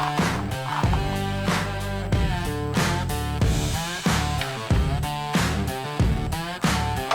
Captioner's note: tools Clanking